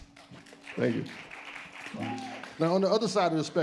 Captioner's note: audience applauds